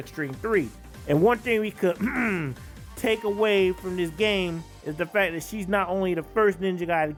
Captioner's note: ahem